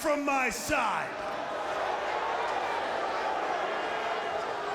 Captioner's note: crowd boos